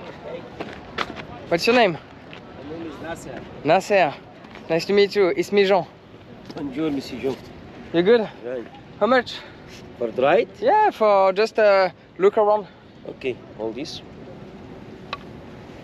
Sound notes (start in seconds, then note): 6.4 speaking in foreign language